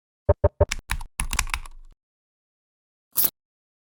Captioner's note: keyboard sounds